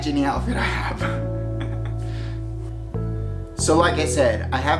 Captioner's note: laughs